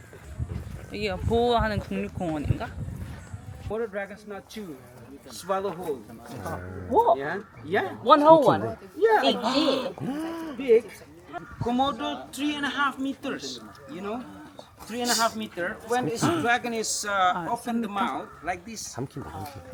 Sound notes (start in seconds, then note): 9.3 crowd gasps